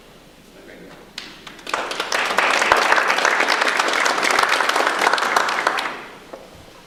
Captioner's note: audience applause